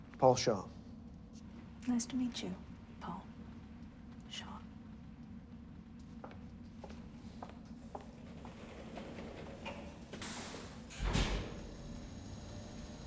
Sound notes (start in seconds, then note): 6.6 shoes clacking; 11.1 elevator thuds